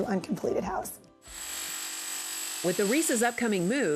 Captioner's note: drill whirring